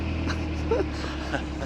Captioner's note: laughter